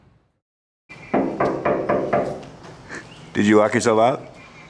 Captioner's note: knocks